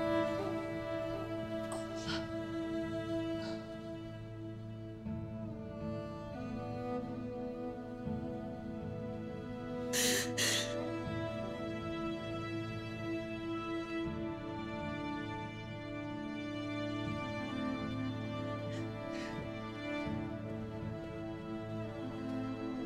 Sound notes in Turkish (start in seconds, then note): 9.9 Ağlama sesi